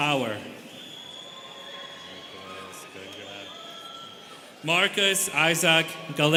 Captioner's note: students cheering